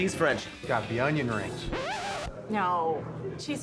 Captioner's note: record scratching sound